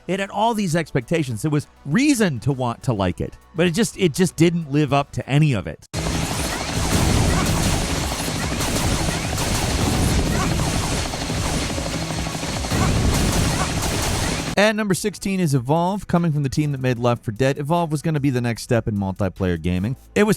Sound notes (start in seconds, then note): 5.9 guns blasting; 5.9 upbeat music